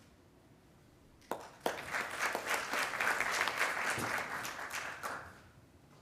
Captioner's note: attendees applauding